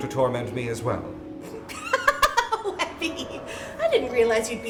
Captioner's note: laughing